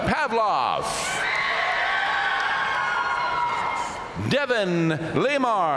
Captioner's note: audience cheering and applauding